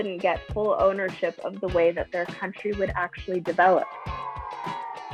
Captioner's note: children boo